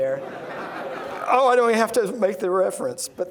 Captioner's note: laughing